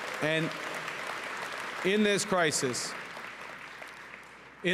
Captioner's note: applause